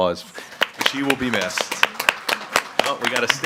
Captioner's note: participants applauding